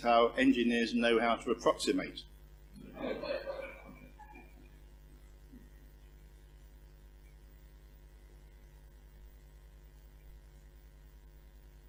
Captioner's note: laugh